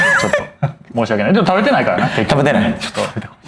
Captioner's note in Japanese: 笑い